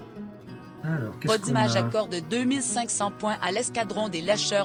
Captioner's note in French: Voix off